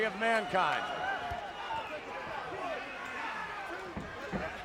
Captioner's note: crowd chattering